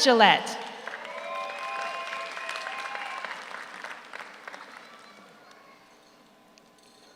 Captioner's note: audience applauds; audience cheers